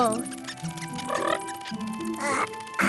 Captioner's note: chortles